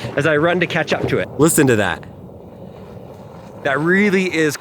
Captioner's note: tires crunching